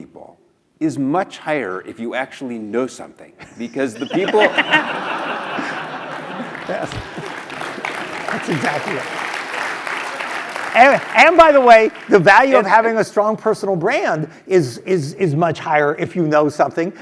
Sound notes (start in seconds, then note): 3.4 laugh; 4.6 applause